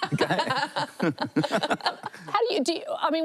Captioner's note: laughter